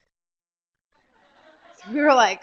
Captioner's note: laughter